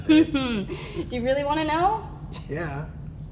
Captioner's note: giggles